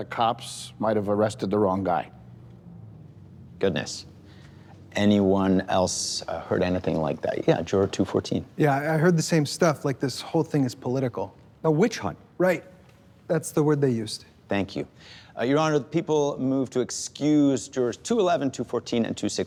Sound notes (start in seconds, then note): none